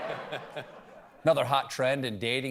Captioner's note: laughter